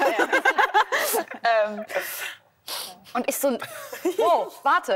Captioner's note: laughter